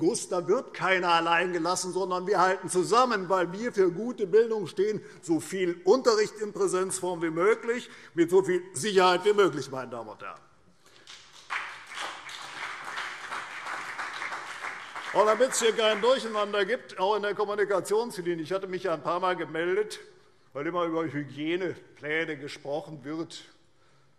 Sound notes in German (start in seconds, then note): 10.8 Beifall CDU und BÜNDNIS 90/DIE GRÜNEN